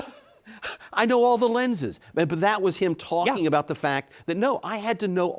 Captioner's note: laughing